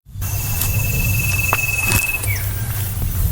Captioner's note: footsteps